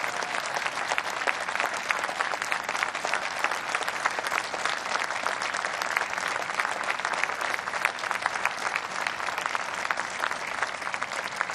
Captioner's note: applause